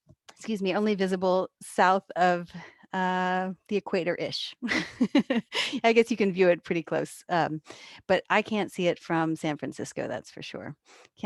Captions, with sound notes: excuse me, only visible south of the equator-ish. (chuckles) I guess you can view it pretty close. But I can't see it from San Francisco, that's for sure.